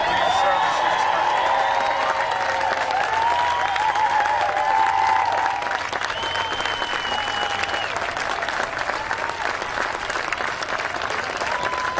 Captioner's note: cheering and applause